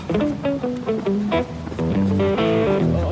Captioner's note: groaning